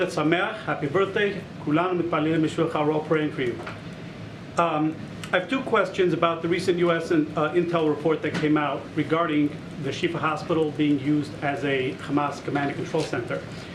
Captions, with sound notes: (speaks Hebrew.) Happy birthday. (Speaks Hebrew.) We're all praying for you. I have two questions about the recent U.S. intel report that came out regarding the Shifa Hospital being used as a Hamas command and control center.